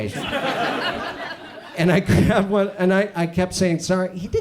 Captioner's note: audience chuckles